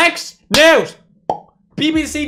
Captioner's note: pop